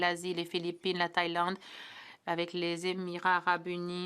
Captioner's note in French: voix de l'interprète